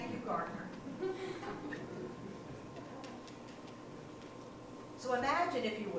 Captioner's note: congregation laughing